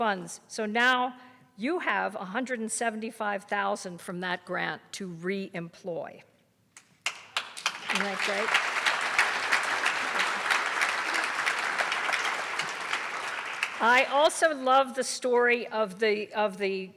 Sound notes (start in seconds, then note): 10.1 audience applause